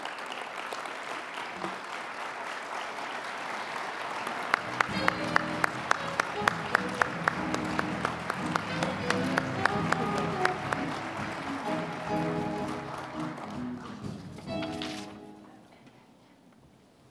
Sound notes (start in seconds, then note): 0.1 applause; 4.7 mellow jazzy music; 5.0 applause